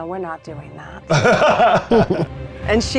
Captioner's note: laughing